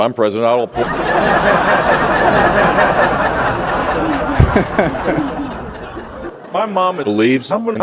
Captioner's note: laughter